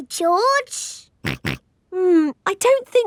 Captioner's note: snorts